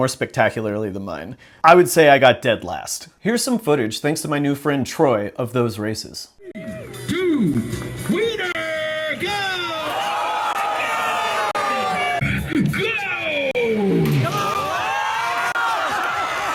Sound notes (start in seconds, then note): 8.0 announcer "3-2-Weiner- Go!" Followed by crowd yelling